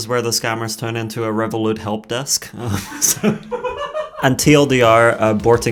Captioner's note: laughing